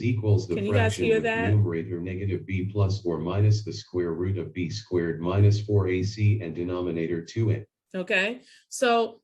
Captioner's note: screen reader reading equation in background